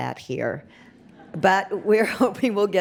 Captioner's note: audience laughs